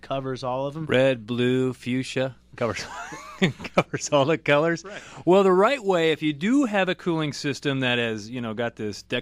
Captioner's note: both laugh